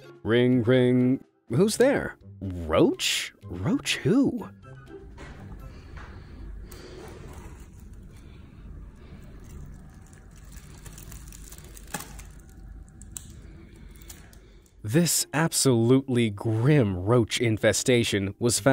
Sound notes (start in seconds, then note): 6.1 telephone crackling